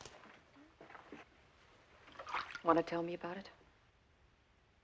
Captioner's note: water Splashes